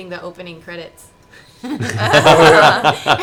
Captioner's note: all laugh